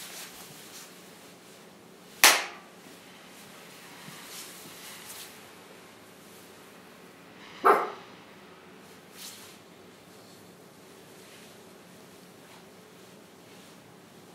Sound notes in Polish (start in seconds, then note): 2.2 klaśnięcie; 7.6 szczeknięcie